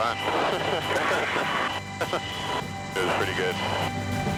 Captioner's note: laughing